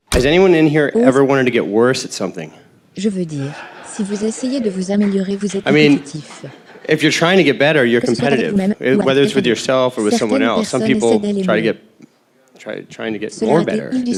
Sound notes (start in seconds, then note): 3.5 crowd laughing